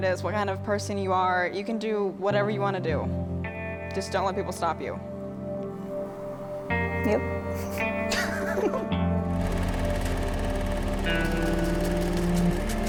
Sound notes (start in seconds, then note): 7.4 laughing; 9.8 film reel shuttering